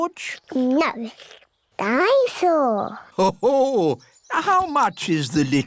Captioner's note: daddy pig laughs